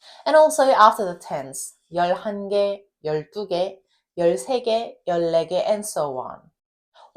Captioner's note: speaks in Korean